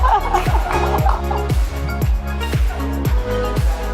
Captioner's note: laughing